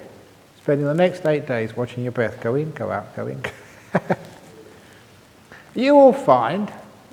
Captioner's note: chuckle